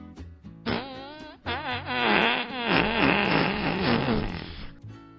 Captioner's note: puff